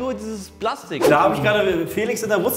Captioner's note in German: woosh